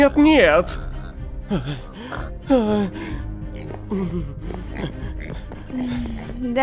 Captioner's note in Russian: растерянные вздохи